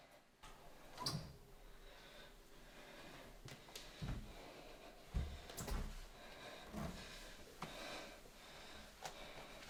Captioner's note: wheezing